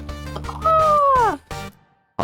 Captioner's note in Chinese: 怪叫